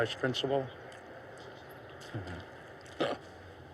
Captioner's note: laughs